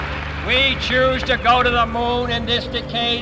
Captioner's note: crowd cheers and claps